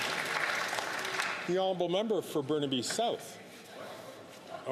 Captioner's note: some Applause